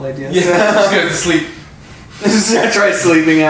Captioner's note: laughs; distressed panting; laughs